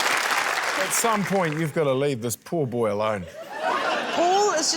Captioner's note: laughter